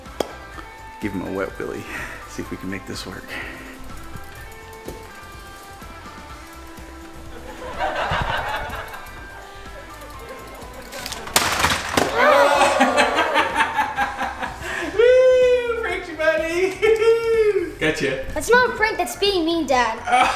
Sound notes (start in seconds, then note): 0.1 pop; 7.2 audience laughter; 12.0 audience booing; 14.5 laughing